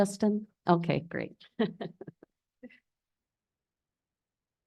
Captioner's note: laughs